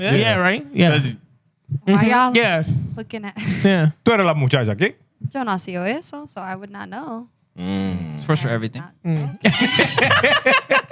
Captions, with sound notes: Yeah, right? Yeah. Why y'all looking at? (Speaking In Foreign Language) So I would not know. It's for sure everything.